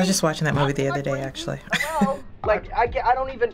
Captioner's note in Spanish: risas